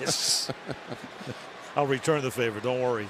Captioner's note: laughter